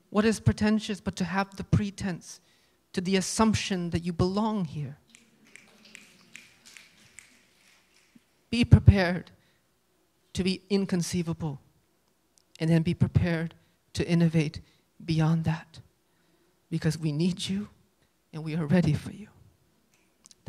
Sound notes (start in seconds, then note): 5.0 light applause